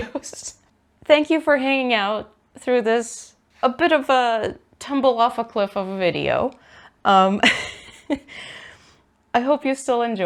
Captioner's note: laughs; laughs